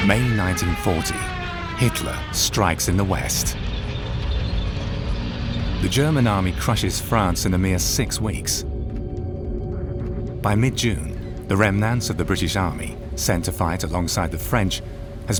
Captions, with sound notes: May 1940, Hitler strikes in the west. (tank engines roaring) The German Army crushes France in a mere six weeks. By mid June, the remnants of the British Army, sent to fight alongside the French,